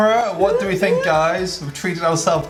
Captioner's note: whooping